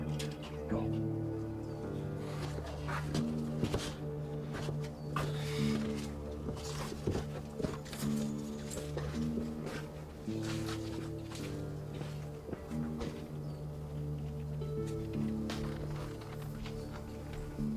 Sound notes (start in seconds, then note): 2.0 suspenseful music continues; 2.8 footsteps thud